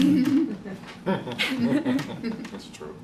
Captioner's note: laughter